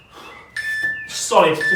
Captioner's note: beeping